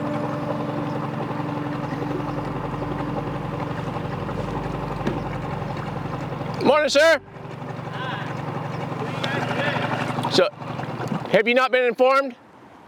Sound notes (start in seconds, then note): 5.0 car door thumps